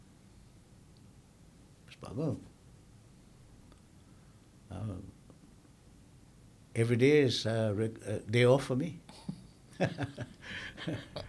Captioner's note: laughing